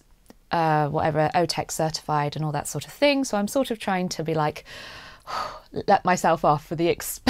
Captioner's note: exhales